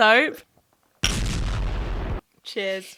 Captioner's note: explosion roaring